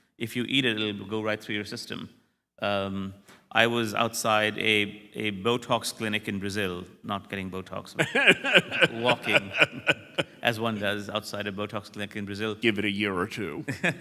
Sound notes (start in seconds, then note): 8.0 laughter